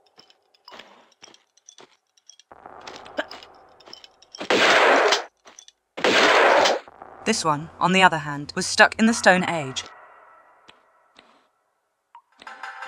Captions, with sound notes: *BAM* --- *BAM* This one, on the other hand, was stuck in the Stone Age.